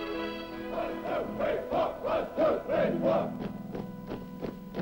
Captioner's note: marching chants